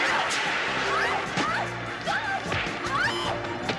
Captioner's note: screaming